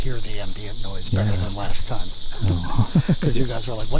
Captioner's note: laughing